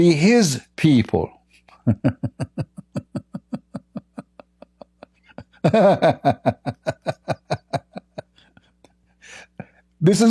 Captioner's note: Ketawa